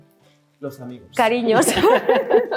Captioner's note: producer 1 speaks in Spanish; speaks in Spanish; all laugh